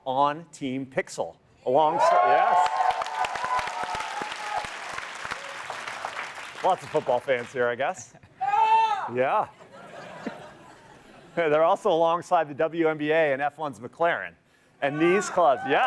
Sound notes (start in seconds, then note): 4.9 applause